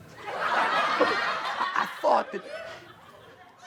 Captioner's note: audience laughs